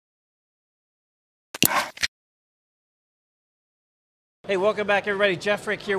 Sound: computer mouse clicking

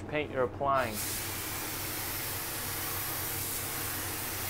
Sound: paint spraying

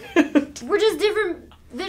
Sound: chuckles

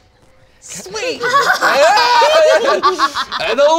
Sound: cackles

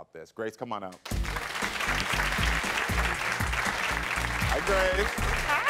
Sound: audience clapping

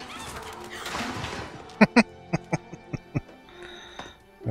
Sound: laughing

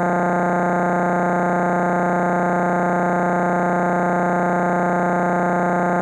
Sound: electronic buzzing continues

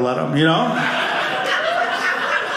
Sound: audience laughing

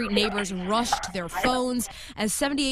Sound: barking and screaming

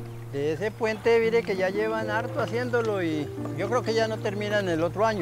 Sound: speaking in foreign language

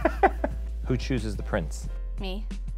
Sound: laughs

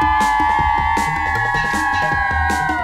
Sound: cheers

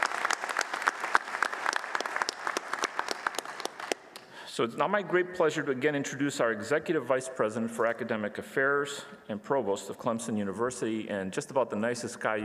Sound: applause

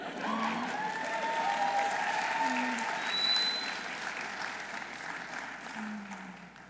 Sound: audience laughing; audience cheering

